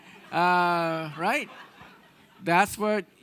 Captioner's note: audience laughing